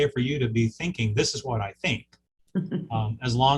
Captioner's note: chuckling